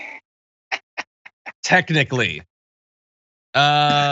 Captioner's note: laugh